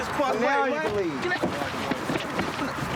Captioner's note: shouting